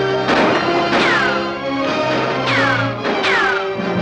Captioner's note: gun firing